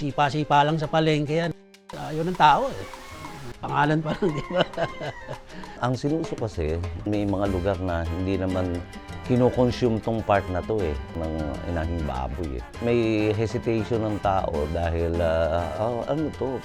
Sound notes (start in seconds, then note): 4.1 laughs